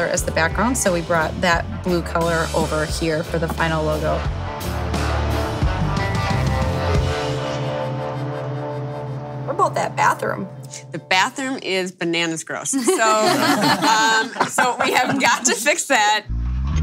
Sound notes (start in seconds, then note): 12.8 laughing